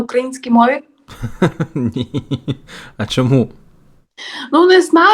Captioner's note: laughs